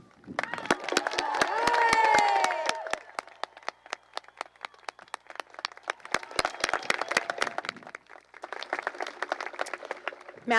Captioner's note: cheering and applause